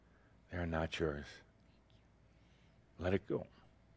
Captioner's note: whispers